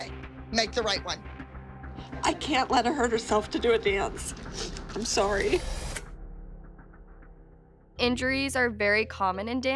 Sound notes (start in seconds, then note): 4.4 sniffles; 5.7 dramatic music playing